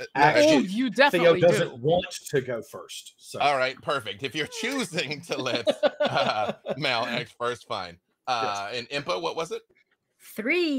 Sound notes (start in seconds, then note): 4.3 laughing